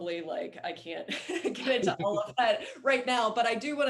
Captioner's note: laughs